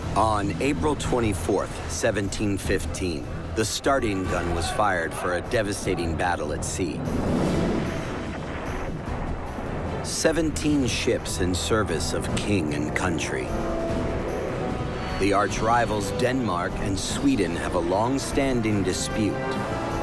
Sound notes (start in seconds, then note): 7.0 cannon fire